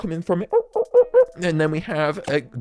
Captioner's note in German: Pied-billed Grebe Type Call